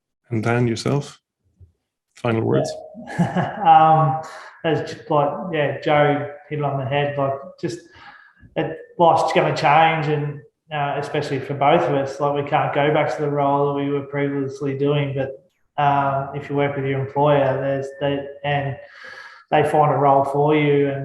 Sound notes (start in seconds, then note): 3.0 laughs